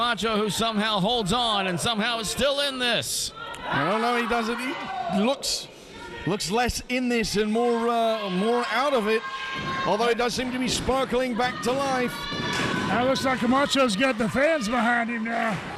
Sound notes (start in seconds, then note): 12.3 audience cheering; 15.6 audience clapping in unison